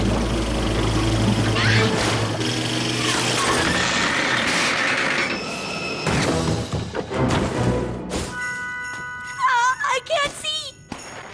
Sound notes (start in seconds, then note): 1.5 scream; 3.4 clatter; 6.0 crash